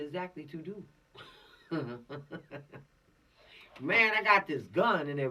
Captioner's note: laughing